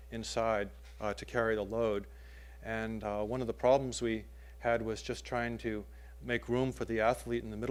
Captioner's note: none